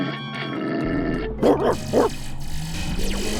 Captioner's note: barking angrily; static noises